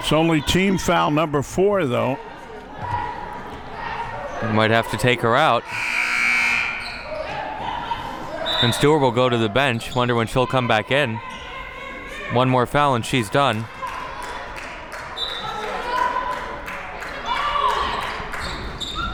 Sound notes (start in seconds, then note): 5.6 buzzer blares; 14.0 audience member clapping; 14.0 whistle blows